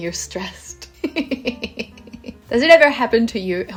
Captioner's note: witch laughter